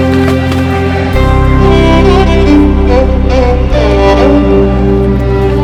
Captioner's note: protesters Sloganeering in the background